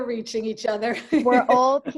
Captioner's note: chuckles